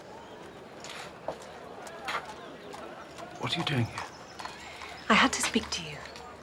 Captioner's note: none